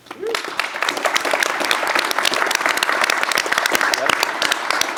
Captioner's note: applause